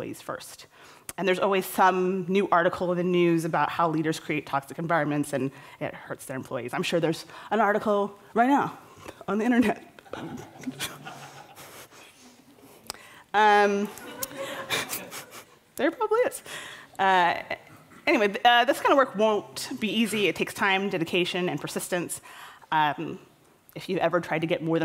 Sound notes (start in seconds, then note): 10.2 laughter